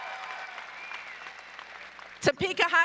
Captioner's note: applause